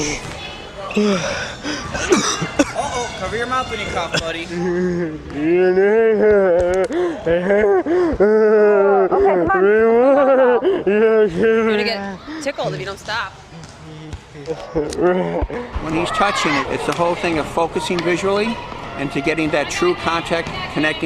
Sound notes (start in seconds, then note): 0.9 coughing; 4.5 groaning